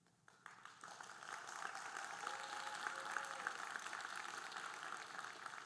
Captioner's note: audience cheering and applauding